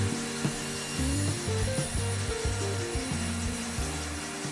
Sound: saw vibrating

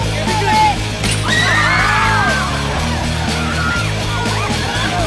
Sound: cheering

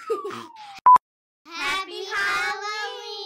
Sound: beeps

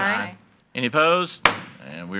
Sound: gavel bangs

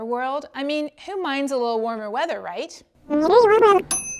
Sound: bell rings

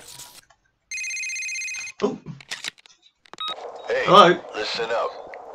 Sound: phone rings

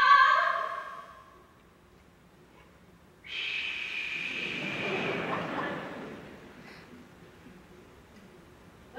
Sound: she tries unsuccessfully, laughter

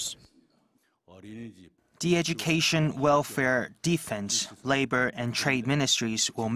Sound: Korean

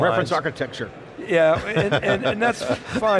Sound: laughing

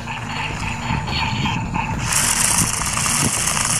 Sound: laser shots, wheels scraping; wheels scraping continues

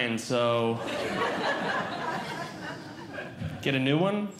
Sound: audience Laughing

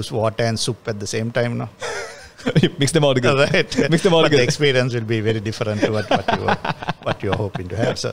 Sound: laughs

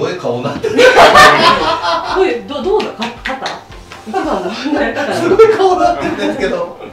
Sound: laughs

